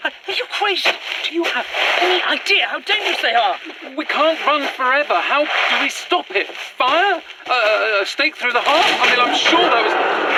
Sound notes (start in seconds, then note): 8.6 crash as the thrall bursts into camp; 9.2 guttural scream